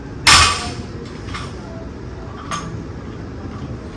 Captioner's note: weight clanks